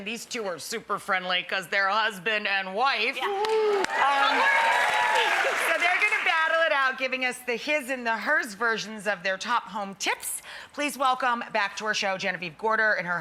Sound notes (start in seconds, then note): 3.2 cheers and applause